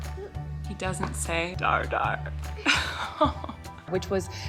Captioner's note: sad giggle